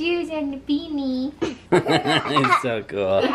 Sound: everyone laughs

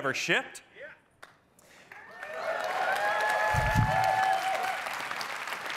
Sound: cheering

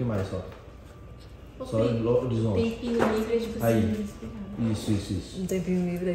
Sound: indistinct chatter in the background

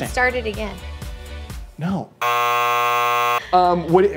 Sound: beeping

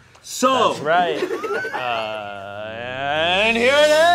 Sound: audience laughs

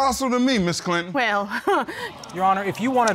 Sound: chuckles

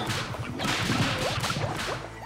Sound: banging

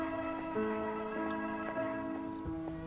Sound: phone rings; gentle instrumental music

